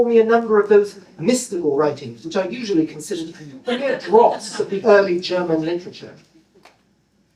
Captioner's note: laughter